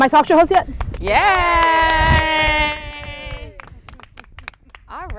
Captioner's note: group applauding; group cheering